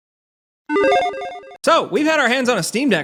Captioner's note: digital sound effect